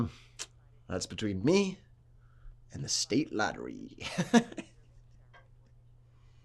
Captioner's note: laughs